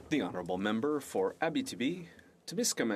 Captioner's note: speaking French